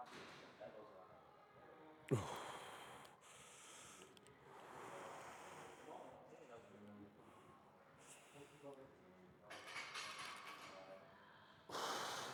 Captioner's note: sighing